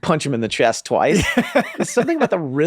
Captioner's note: laughing